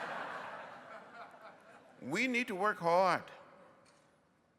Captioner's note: laughter